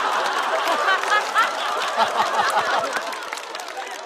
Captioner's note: haha